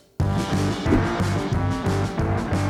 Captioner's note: none